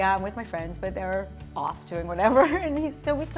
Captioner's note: laughs